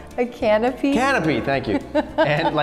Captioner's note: laughs